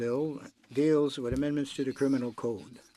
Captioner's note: speaking French